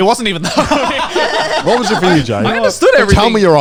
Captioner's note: laughs